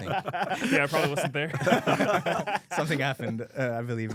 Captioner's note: laughs